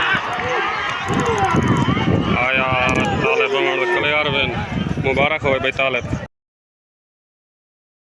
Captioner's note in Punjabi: ਤਾੜੀਆਂ